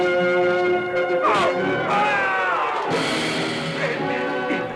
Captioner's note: yelling